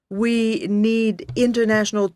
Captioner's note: speaking French